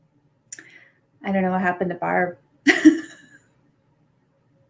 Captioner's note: laughs